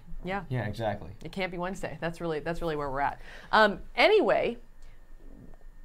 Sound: none

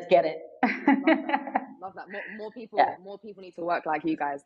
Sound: laughing

